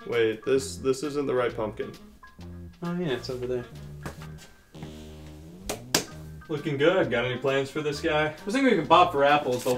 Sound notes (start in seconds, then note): 5.6 hand slapping